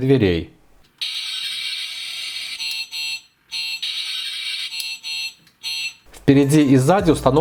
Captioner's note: two beeps sound alternately